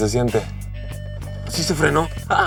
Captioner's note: alarm beeping